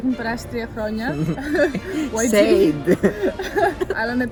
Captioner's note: giggles